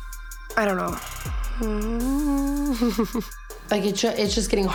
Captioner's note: giggles